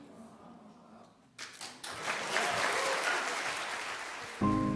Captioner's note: cheers and applause